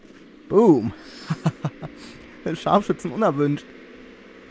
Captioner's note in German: Lacht